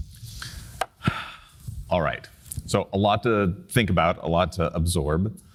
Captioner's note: sighs